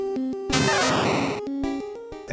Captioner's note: Sound of Pikachu's in-game cry